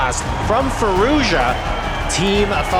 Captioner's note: crowd cheering, applauding